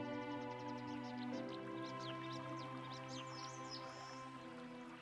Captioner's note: birds chirping